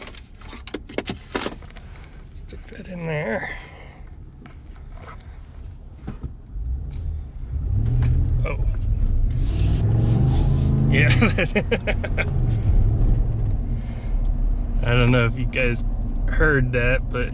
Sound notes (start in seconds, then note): 10.9 laughing